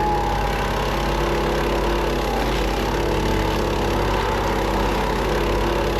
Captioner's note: saw rumbling continues